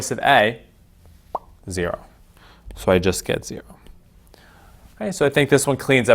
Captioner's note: mouth pops